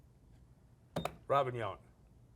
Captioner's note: beep